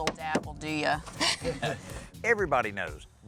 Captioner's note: laughter